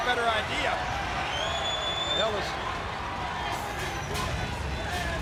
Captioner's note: fans cheering